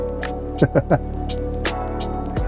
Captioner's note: laughs